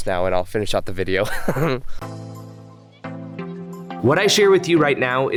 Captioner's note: laughs